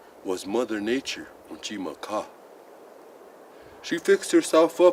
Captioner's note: speaks Lakota